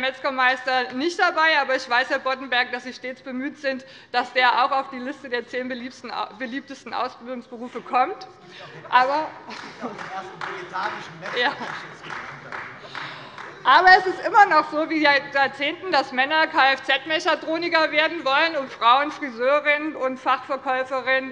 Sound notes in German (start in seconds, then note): 7.0 Heiterkeit und Beifall bei Abgeordneten des BÜNDNISSES 90/DIE GRÜNEN und der CDU